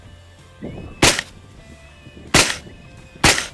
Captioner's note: gunshot; gunshot